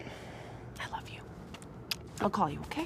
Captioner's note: lips smack